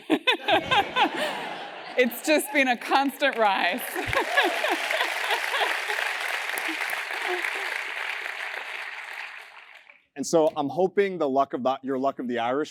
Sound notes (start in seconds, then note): 0.0 laugh; 6.4 applause